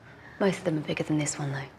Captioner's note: gasps